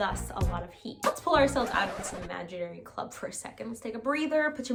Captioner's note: record scratch